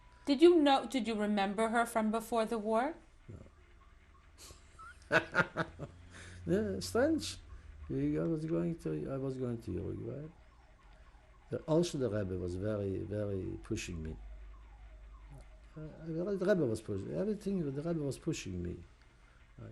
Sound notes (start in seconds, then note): 4.4 laughs